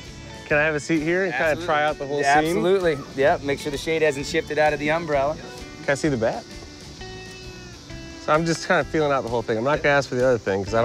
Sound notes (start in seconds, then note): none